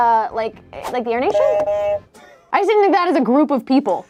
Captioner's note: buzzer honks